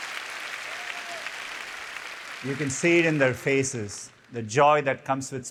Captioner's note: applause